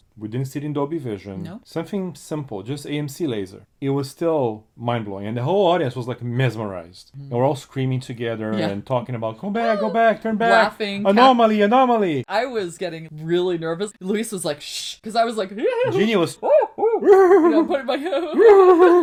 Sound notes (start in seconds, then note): 10.5 screech